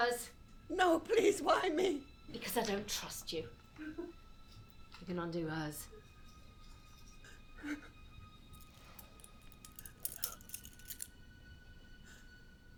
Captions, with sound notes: - Not hers. - No please, why me? - Because I don't trust you. You can undo hers. (metal cling)